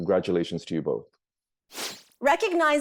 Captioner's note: transition sound